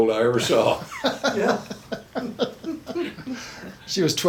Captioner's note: chuckles